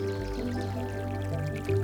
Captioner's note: birds chirping; water flowing